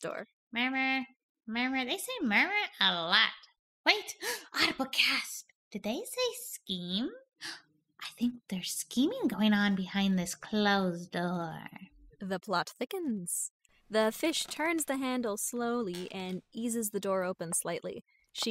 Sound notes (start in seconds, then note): 4.2 gasp; 7.4 gasp